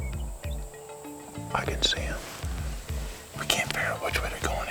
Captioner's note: whispering